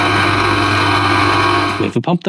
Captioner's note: engine revving